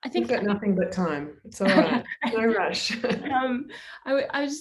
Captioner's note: laughs